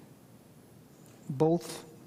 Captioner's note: none